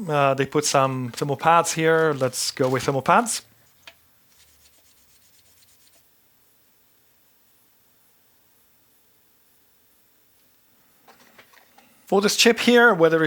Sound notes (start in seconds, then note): 5.2 silence